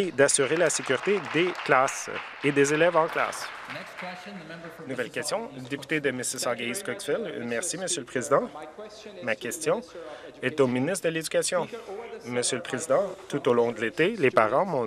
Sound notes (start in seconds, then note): 5.0 some Applause